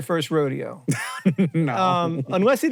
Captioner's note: laughs